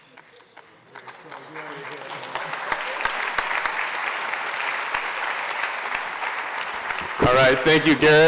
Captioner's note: applause